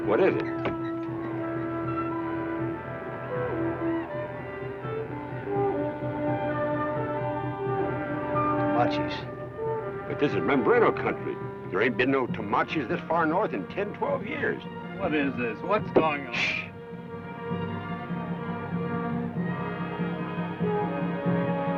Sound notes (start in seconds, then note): 4.2 distant war cry; 18.8 distant war cry